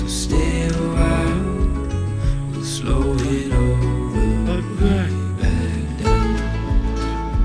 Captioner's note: haha